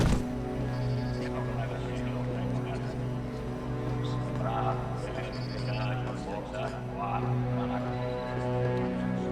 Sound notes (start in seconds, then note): 4.6 computers beeping